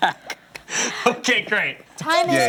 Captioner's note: laughs